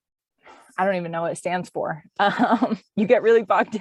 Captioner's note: chuckles